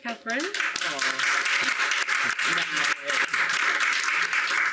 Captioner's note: audience applauding